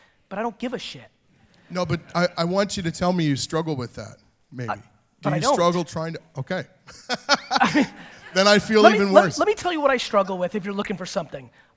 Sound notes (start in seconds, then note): 6.9 laughs